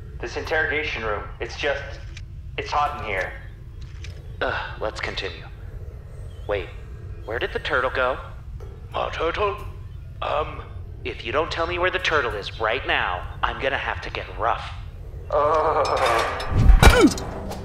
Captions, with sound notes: This interrogation room. It's just. It's hot in here. (Scoffs) Let's continue. Wait... Where did the turtle go? Marturtle? Um. If you don't tell me where the turtle is right now, I'm going to have to get rough. (Moans) (Metal crash)